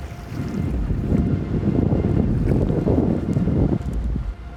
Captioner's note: loud wind gusts